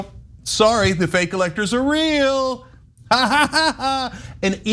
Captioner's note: laugh